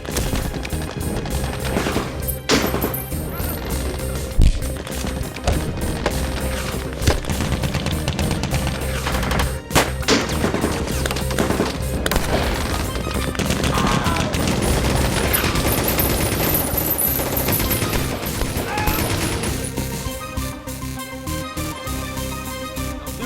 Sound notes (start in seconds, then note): 0.1 elbow whacking; 4.3 heads knocking; 5.4 gun whooshes and whacks; 7.4 guns firing; 14.5 bullets ricocheting; 14.5 guns firing; 19.4 intense music continues